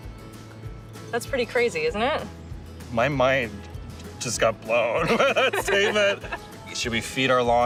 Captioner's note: laughs